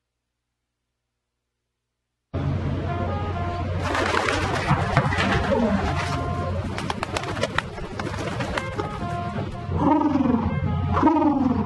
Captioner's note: pigeon cooing